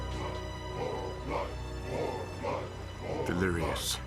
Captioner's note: chanting